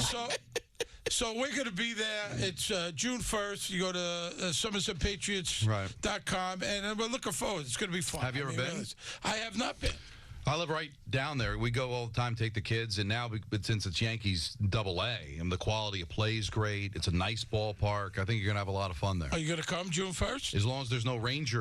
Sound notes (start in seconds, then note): 5.7 laughing